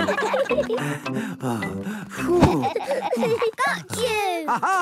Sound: all laughing; panting

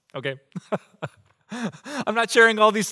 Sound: pastor: Laughter

